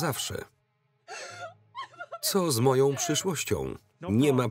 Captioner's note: crying